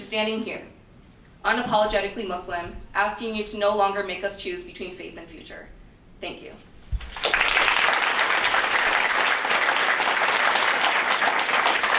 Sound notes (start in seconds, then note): 7.0 audience applauds